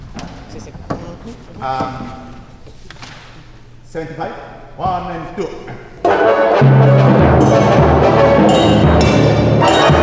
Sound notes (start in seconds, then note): 4.2 in English